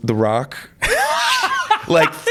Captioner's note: laughs